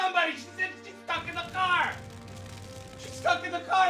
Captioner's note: flames crackling